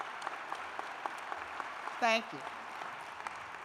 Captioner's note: applause